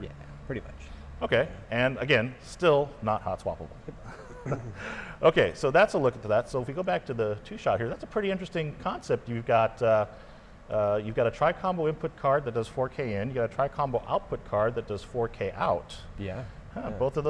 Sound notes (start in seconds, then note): 3.9 laughing